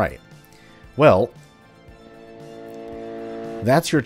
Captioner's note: Junker Railgun charging